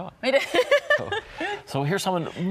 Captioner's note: laughs